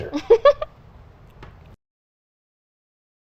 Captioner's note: giggles